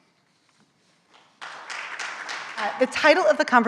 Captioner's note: audience applauding